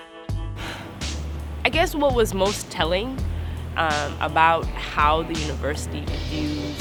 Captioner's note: sigh